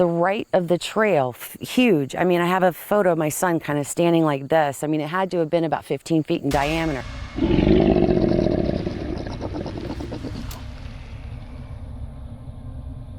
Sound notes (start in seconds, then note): 7.4 growling; 11.5 dramatic music